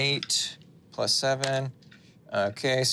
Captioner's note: dice rolling